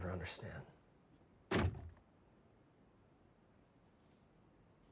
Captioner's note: door closes